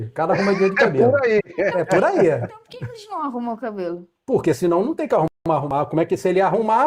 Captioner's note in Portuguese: risadas